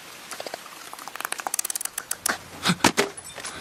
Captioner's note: rustling leaves; clicking